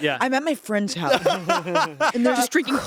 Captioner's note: everyone laughs